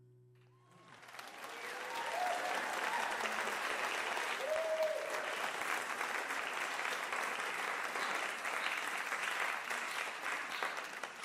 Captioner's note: applause